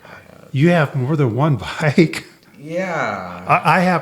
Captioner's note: laughs